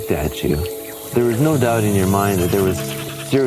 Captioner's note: dolphin laughing